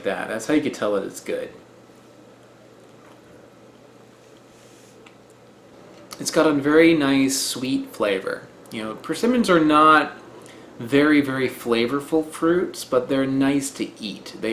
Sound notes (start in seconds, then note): 3.7 muffled muching noises